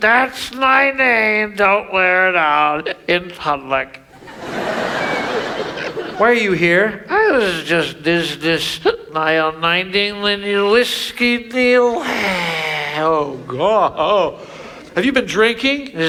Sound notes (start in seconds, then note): 4.0 audience laughs